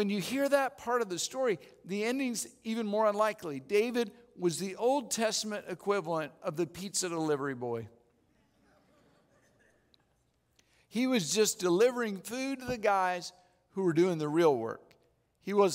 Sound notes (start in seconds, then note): 8.7 audience laughing